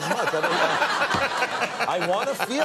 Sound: laughing

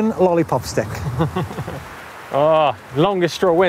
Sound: laughs

